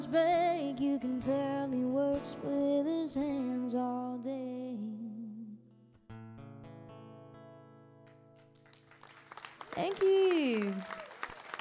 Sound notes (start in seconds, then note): 5.8 guitar strumming; 9.3 audience cheering